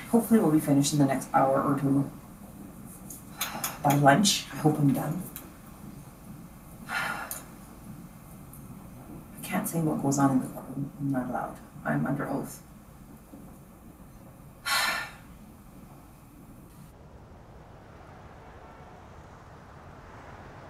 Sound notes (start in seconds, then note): 6.8 sighs; 14.6 sighs heavily